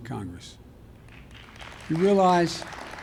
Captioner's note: applause